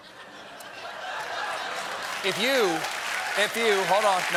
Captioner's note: laughter; applause